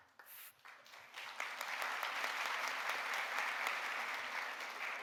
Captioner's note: audience applauding